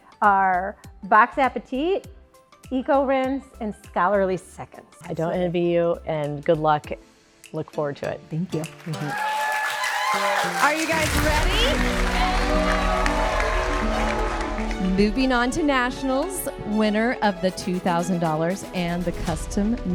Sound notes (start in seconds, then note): 8.9 cheering; 13.2 audience applauding